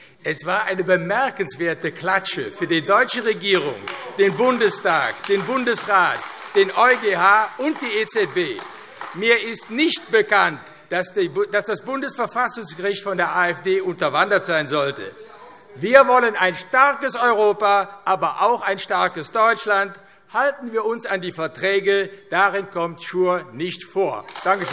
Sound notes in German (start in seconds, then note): 8.7 Beifall AfD